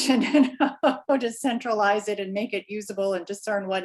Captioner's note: laughs